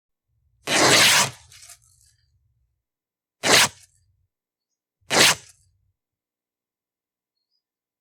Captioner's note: ripping sound